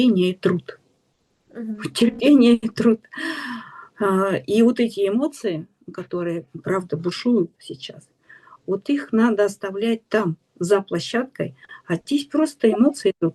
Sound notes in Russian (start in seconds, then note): 3.2 тяжело вздыхает